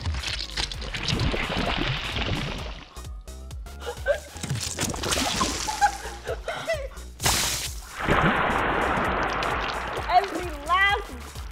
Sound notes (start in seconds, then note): 5.2 giggling